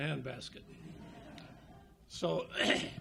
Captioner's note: audience laughs